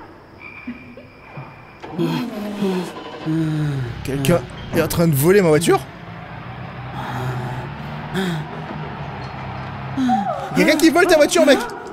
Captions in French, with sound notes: *Bruits du vent et des voitures* Quelqu'un est en train de voler ma voiture ? Il y a quelqu'un qui vole ta voiture, mec !